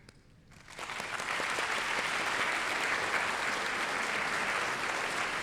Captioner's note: applause